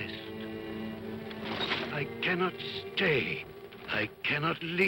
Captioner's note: chains rattle